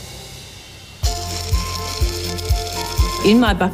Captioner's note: machine grinds loudly